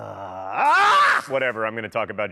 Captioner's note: groaning; screaming